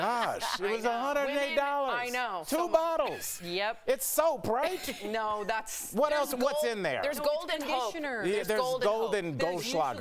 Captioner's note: laughter